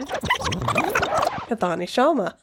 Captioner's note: gurgling